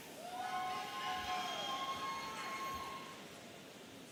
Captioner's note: audience cheering